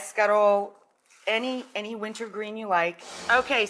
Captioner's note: air whooshes